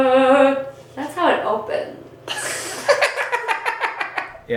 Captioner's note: cackles offscreen